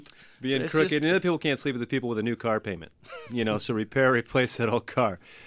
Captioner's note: laughs